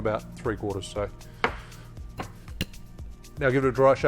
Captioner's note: thuds